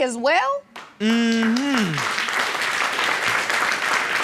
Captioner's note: audience clapping